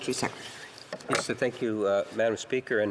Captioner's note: speaking French